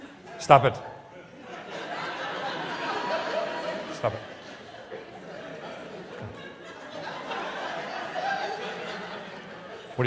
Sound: laughters

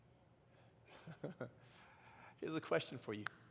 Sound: laugh

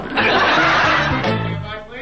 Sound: audience laughing

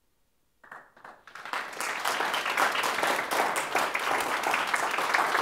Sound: applause

